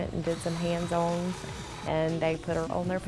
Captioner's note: drilling